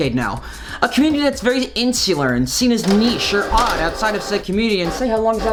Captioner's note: printer noises